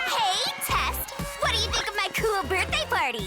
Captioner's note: party laughter and chatter